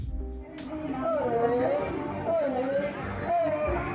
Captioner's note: fairground noise